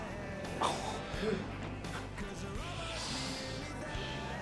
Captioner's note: Adam laughs